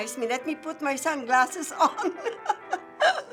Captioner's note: chuckling